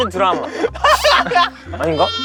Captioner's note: laughter